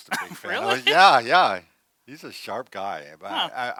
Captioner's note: laughs